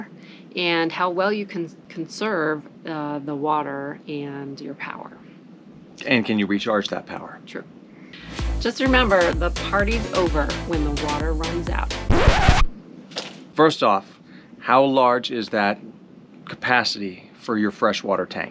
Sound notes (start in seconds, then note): 12.1 record scratch sound